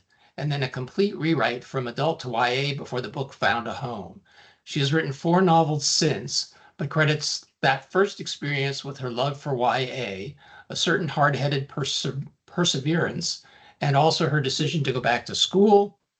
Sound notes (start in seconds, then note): none